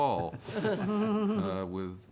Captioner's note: chuckling